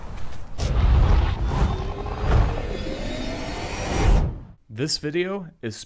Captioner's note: dramatic transition sounds